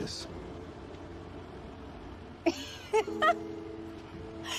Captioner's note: laughing